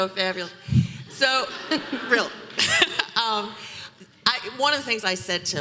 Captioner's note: audience laughing